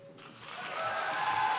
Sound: applause

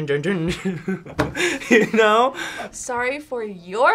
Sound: laughs

